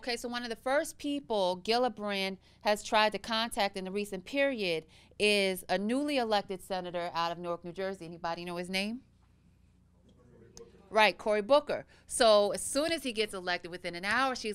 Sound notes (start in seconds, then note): none